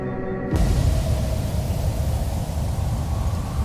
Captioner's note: wind gushing